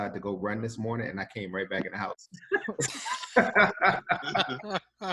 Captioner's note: laughs